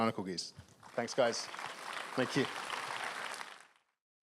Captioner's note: applause